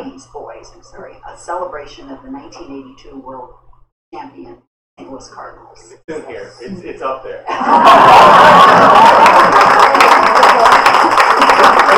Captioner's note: laughter